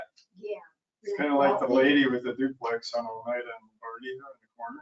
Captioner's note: people chattering